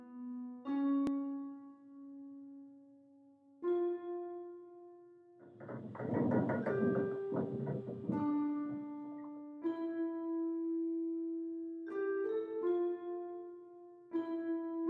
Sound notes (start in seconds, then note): 5.5 curtains creaking; 5.5 morbid music playing